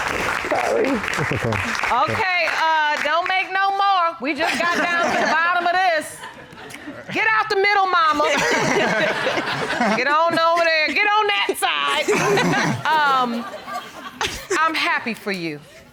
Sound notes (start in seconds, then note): 8.2 all laughing; 12.0 all laughing